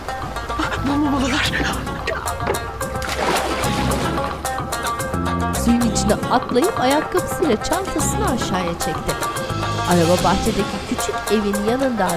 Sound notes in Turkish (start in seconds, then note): 2.9 Suya atlama sesi